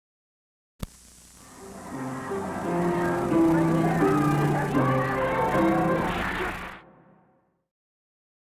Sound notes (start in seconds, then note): 1.5 chatter